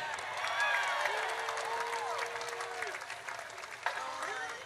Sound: audience cheers

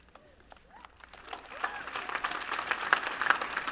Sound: applause

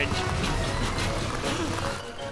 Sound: gasps

